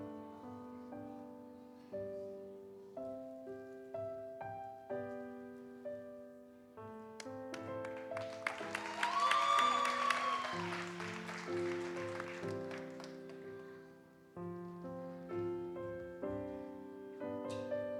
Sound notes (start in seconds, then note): 7.8 audience cheers and applauds; 14.5 gentle music continues